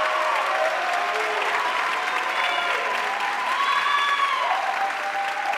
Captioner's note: audience cheering and applauding